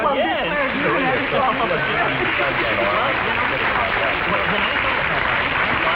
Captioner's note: audience's clapping drowns out speakers